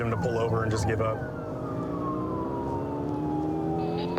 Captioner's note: siren blaring